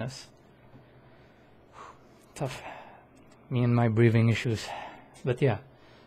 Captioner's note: exhales